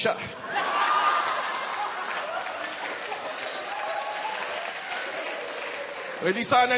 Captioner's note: laughter